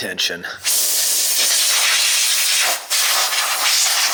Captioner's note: air whooshing